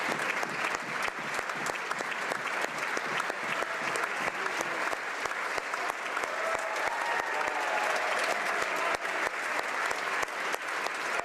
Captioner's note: applause